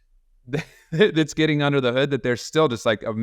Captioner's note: laughs